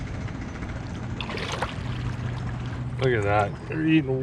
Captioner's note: fish splashing